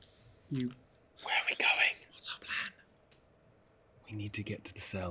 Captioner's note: whispers